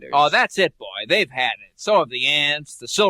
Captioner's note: none